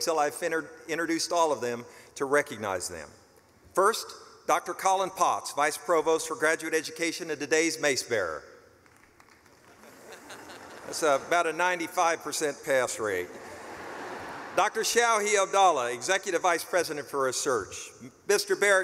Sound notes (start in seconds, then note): 8.8 clapping and laughing; 14.1 laughing